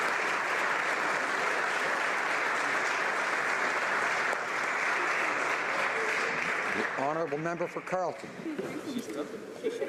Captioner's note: applause